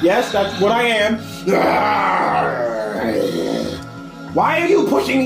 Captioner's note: AAAAAARRRRRRRRRRrrrrrrrrrrrrrgggggggh hhhh